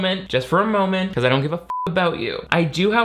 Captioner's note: beep